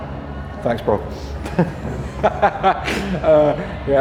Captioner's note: laughing